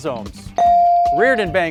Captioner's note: bell dings